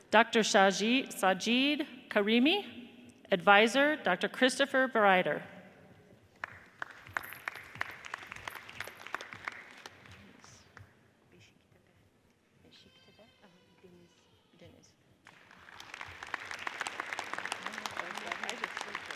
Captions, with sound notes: Dr. Shajit Sajid Karimi, adviser Dr. Christopher Barider. (audience applauds) (people chattering) (audience applauds)